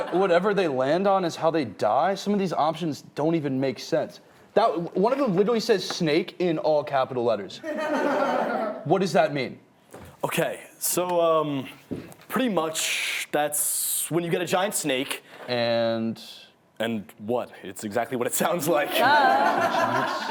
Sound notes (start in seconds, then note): 7.7 laughing; 18.9 laughing